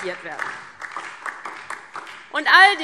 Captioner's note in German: Beifall DIE LINKE und vereinzelt SPD